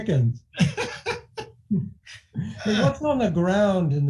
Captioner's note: laughing